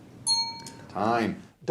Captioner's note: bell rings